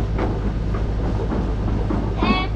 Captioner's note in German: Wind geht vorbei